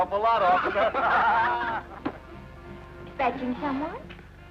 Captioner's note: group laughing